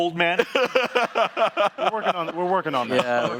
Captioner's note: laughing